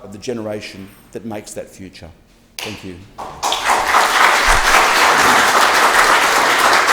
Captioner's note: applause